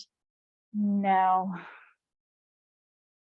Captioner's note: sighs